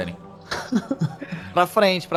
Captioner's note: Rakin laughs